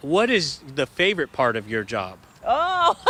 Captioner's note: laughter